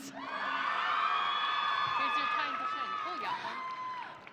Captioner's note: audience cheering